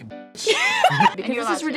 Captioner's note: both laugh